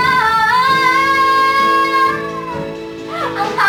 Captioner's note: running out of air